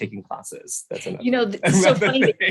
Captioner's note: laughs